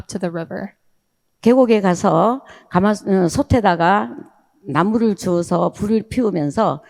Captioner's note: speaking in foreign language